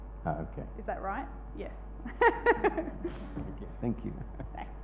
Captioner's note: laughs